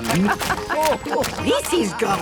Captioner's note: laughing